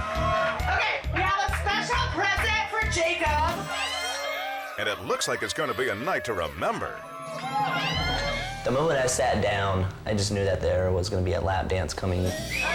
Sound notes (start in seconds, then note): 7.4 crowd screaming